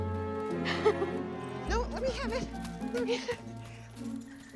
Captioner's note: laughing